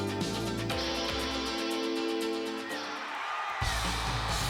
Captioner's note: crowd cheering